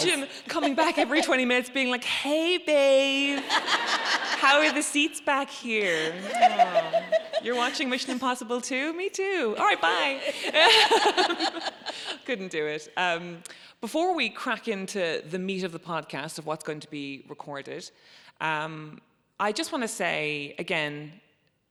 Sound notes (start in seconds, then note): 3.2 audience laughs; 9.9 both laughing